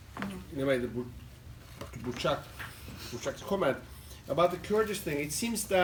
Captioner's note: non-english